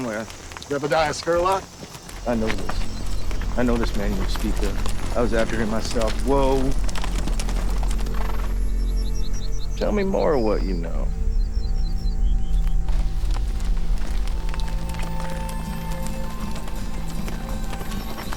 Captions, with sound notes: I was after him myself, whoa. (horse snorts) Tell me more of what you know. (dramatic music playing) Whoa, whoa.